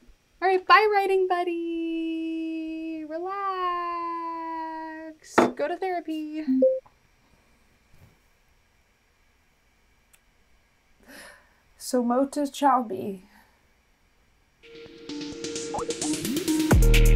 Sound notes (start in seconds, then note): 6.6 Zoom log-off chime